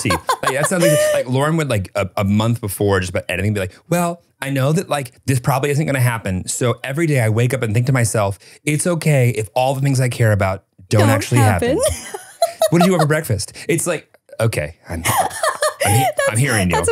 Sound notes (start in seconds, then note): 11.0 laughs